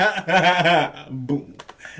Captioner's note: laughing